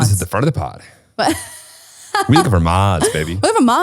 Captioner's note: laughing